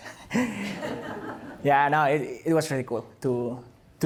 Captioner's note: laughter